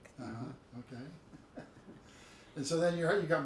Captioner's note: chuckles